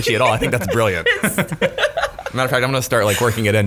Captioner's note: laughing